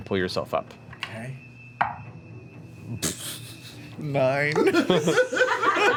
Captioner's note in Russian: усмехается